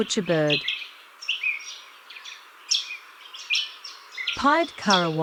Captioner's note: birds chirping